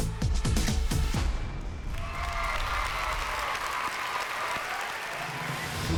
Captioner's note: cheering